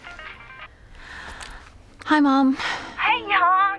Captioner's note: cell phone rings; sighs